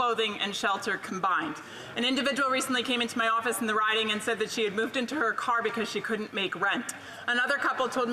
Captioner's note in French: voix de l'interprète